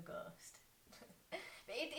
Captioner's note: chuckle